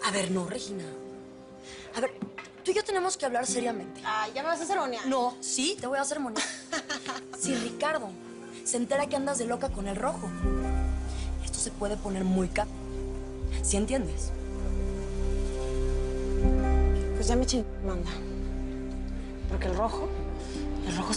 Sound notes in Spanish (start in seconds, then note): 6.3 Risas